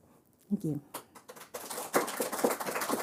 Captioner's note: applause